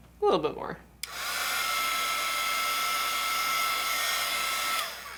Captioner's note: heat gun noise